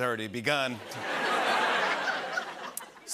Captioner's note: laughter